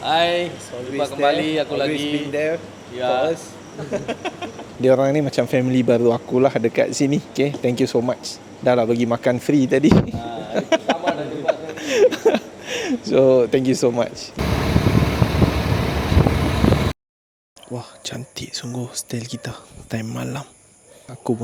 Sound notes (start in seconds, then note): 3.7 laugh; 10.4 laugh